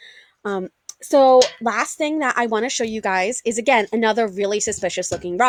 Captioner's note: rock settling